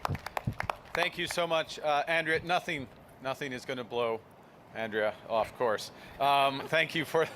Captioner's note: applause